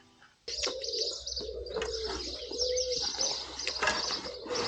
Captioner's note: birds tweeting